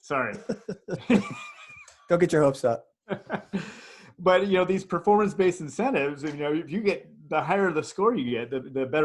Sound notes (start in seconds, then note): 0.4 laughs